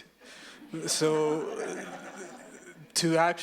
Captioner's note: audience laughs